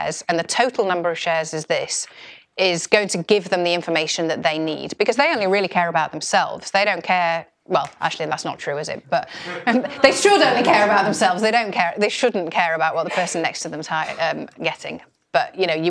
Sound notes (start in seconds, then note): 9.3 laugh